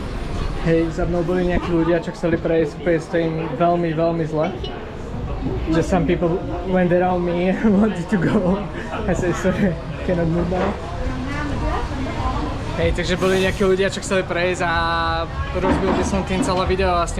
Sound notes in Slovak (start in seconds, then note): 8.1 smiech